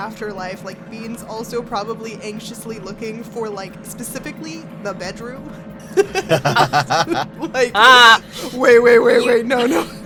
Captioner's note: EVERYONE laughs